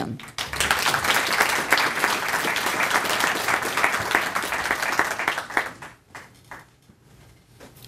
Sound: applause

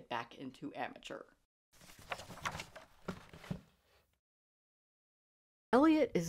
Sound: scrapbook pages turned

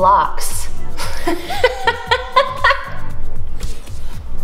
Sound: laughs

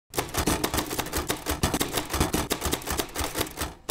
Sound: typewriter typing

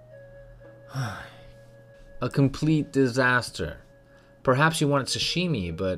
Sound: sigh

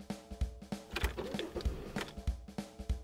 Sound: drums; car starting

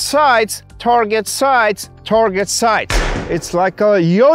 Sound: gunfire popping

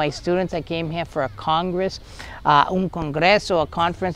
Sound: speaking in foreign language

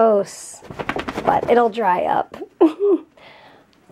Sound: laughs

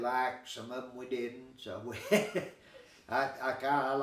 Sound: chuckling

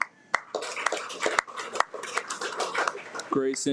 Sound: audience applauds

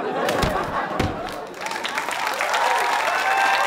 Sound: thud; audience applause

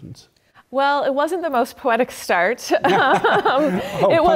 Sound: laugh

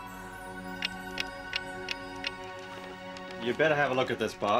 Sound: clock ticking

